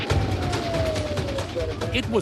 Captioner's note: police sirens blaring